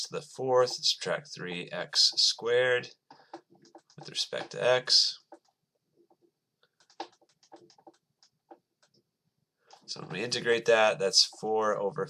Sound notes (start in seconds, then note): 6.8 writing